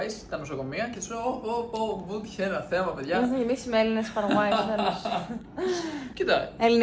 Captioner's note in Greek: γέλια